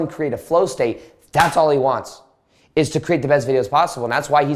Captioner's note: claps